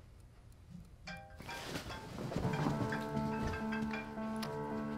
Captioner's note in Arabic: رنين الهاتف